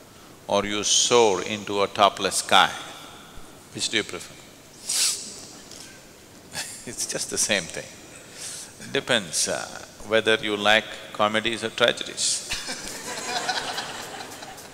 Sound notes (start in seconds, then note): 12.4 laughter